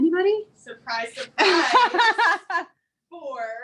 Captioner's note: laughs